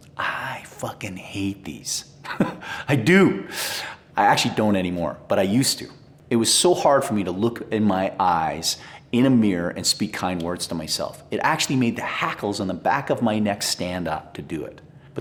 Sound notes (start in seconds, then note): 2.2 chuckling